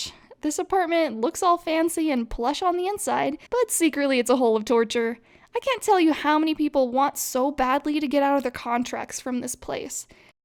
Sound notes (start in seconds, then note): none